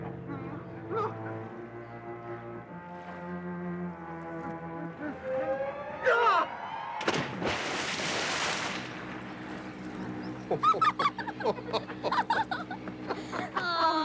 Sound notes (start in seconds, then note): 6.1 Parker screams; 10.4 Pop and Dee laughing